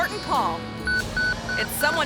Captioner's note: pager beeping